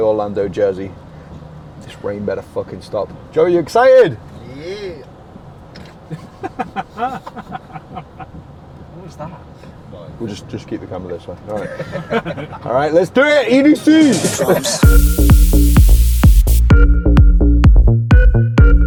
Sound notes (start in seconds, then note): 5.8 laughter; 13.8 energetic EDM music